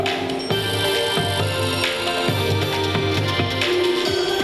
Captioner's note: bells tinkling